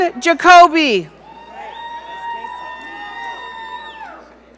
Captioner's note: audience cheering